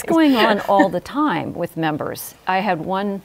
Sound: laughs

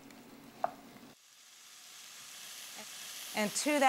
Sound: sizzling

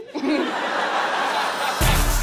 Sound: audience laughing; upbeat music

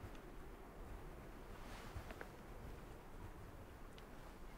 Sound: wind blowing

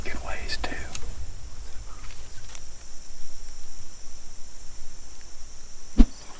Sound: crickets chirping

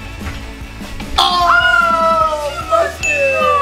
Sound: both exclaiming

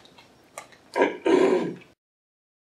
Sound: throat clearing "ahem"

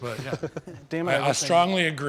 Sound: all laughing

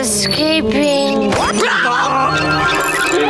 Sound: screaming

